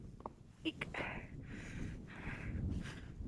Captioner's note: none